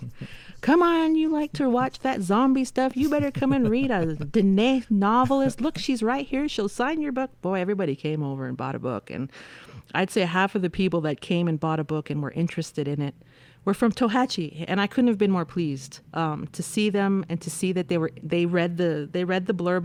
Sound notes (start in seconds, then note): 5.0 laughter